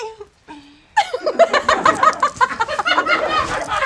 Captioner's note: audience laughs